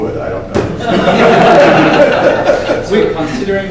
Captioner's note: audience laughs